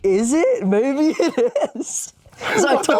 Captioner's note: laughs